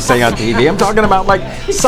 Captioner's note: Suzanne laughs